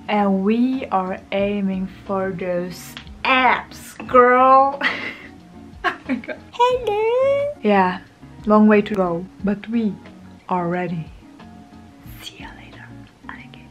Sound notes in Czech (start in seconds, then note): 2.6 směje se, protože to bylo tak kýčovité; 6.7 roztomilý hlas s vysokým tónem; 11.9 šeptá